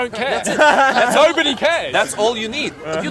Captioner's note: laughs